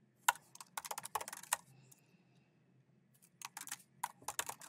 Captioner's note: keyboard clacking